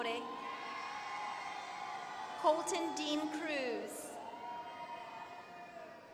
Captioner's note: applause